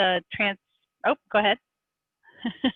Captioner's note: laughs